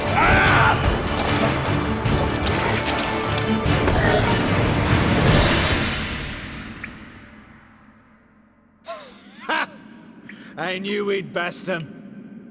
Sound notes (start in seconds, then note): 1.0 growl; 4.6 groan